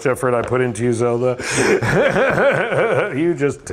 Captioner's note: laughs